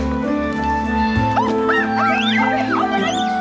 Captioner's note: exclaims